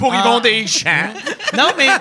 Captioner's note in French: rires